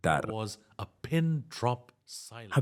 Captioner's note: Hablando idioma extranjero